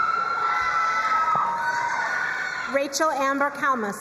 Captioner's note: crowd cheering and applauding